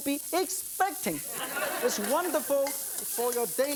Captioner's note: audience laughing